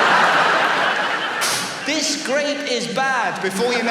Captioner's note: audience laughs; spits